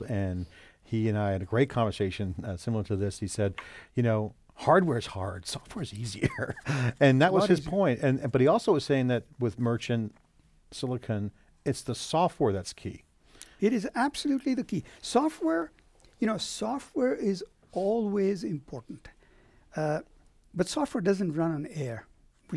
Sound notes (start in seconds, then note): 6.2 laughs